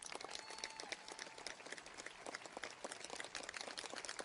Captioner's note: audience applauds